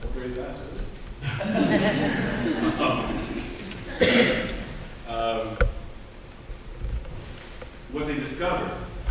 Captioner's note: laughter